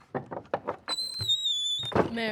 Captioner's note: door opens and closes